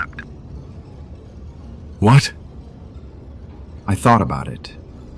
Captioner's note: agitated